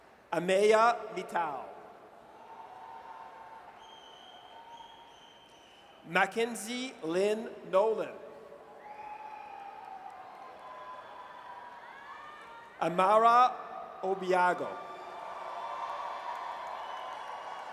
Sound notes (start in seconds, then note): 2.2 audience cheers; 8.8 audience cheers